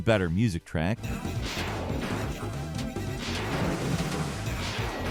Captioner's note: lasers firing